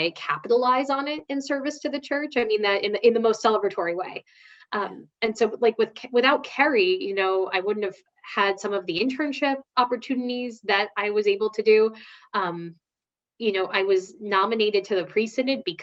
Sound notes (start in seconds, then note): none